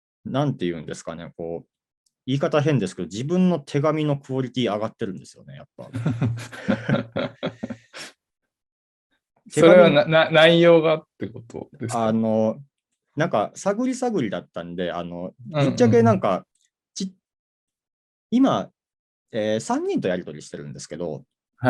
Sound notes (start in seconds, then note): 5.9 laugh